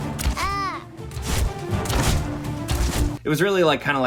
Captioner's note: characters grunting